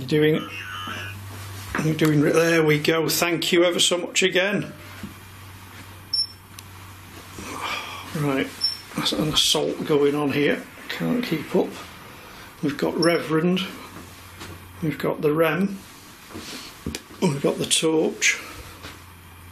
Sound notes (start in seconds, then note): 6.1 machine beeps; 13.0 machine beeps